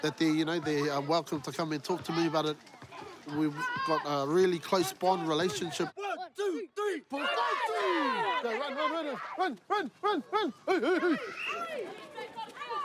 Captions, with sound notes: that they're welcome to come and talk to me about it. We've got a really close-bond relationship. One, two, three. (ALL CHEER) OK. Run, run, run. Run, run, run, run! Hey, hey, hey!